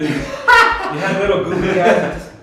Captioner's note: laugh